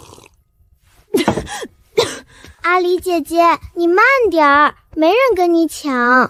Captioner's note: cough cough